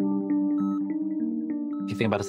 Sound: beeping

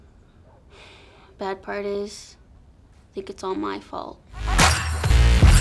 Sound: sighs

